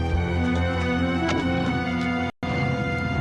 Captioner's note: car door closes